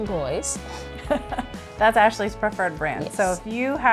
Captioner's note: chuckles